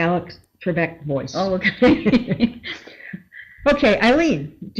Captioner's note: laughing